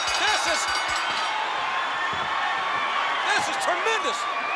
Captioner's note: crowd cheering